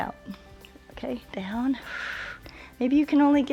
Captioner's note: exhales